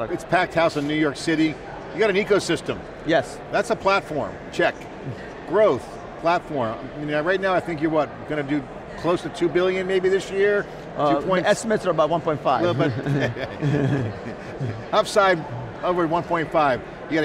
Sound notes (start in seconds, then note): 12.6 chuckle